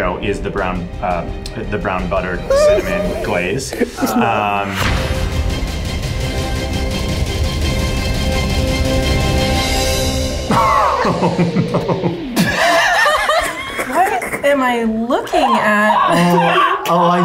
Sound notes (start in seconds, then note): 4.8 suspenseful music; 10.8 both laughing